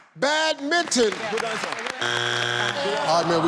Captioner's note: audience claps; error sound